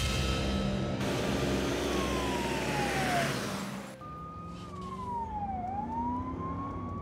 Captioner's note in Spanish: sirena de la ambulancia